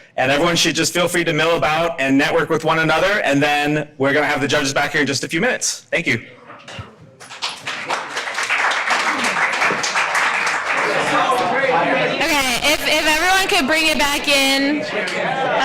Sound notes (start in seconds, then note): 7.1 audience applauding